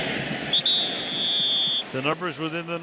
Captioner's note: whistle